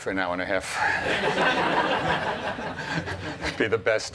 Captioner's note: laughter